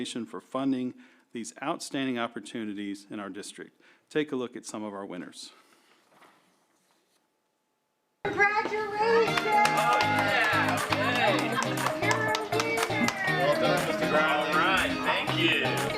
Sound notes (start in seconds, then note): 8.4 cheering and applause